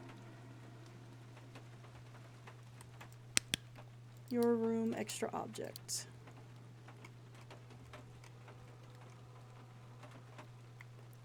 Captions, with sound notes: [Flashlight Clicks Off] Your Room. Extra Object.